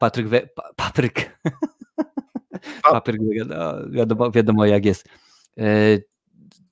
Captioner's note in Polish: śmiech